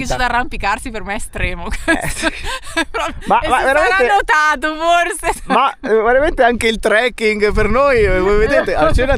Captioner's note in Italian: risate